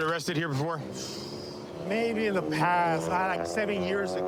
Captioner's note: exhales sharply